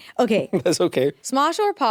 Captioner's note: chuckles